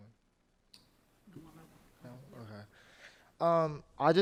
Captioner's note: speaking faintly